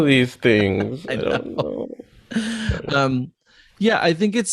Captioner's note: laughs